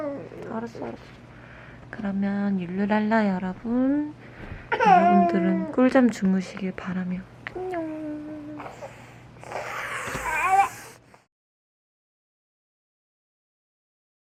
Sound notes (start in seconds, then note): 8.6 heavy breathing says she's sleepy